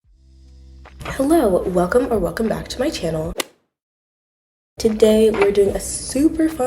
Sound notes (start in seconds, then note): 3.3 golf hit sound effect